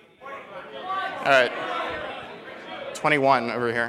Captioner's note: audience shouting answers